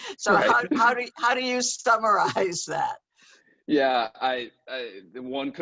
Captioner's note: laughter